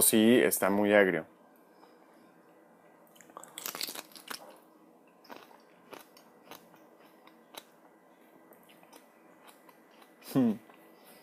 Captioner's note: chomp